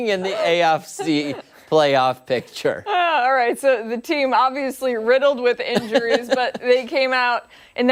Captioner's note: laughter